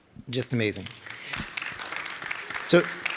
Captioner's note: audience applauding